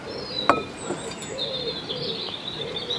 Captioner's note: birdsong